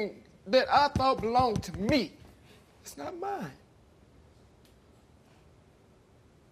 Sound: sniffles

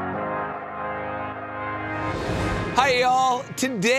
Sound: inspiring music; air whooshing

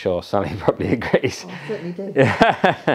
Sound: chuckles

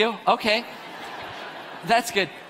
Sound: audience laughs

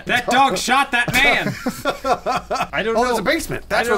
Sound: laughing

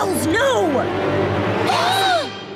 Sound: gasping

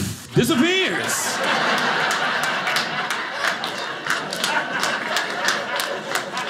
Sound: audience laughing

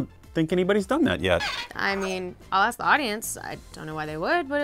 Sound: CH-33Z squeaks

